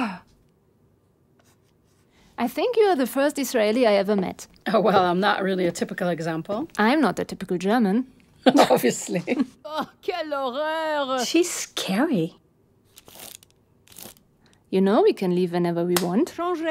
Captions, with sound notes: I think you are the first Israeli I ever met. - Well, I'm not really a typical example. - I'm not a typical German. - Obviously. [woman speaking French] - She's scary. You know, we can leave whenever we want.